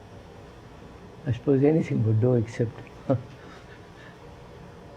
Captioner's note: laughs